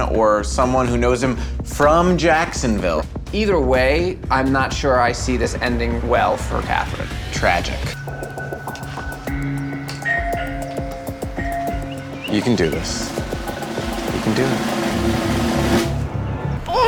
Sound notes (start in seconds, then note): 10.2 doorbell ringing; 15.3 drum roll